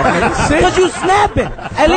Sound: all laugh

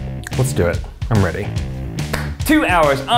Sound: claps

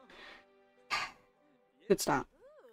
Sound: sighs

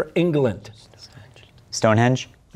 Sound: whispering

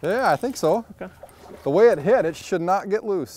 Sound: fish splashing

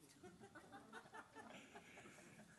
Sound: laughter

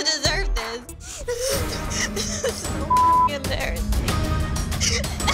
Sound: cries

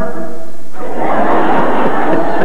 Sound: laughter

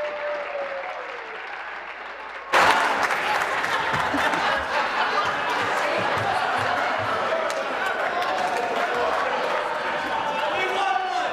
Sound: applause

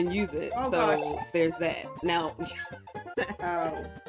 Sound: laughs

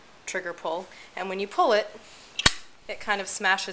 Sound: metal pop sound

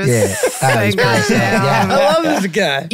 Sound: all laughing

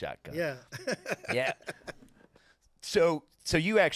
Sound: laughing

